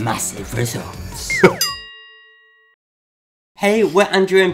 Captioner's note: slide whistle whistling; bell dinging